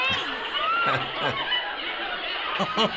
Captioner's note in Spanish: Riéndose